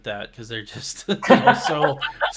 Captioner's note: laughing